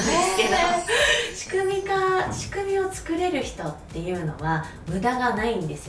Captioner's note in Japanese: 笑い